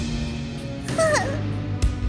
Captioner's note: whimper